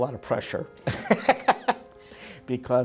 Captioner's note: laughing